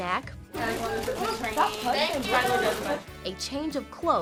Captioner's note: students chattering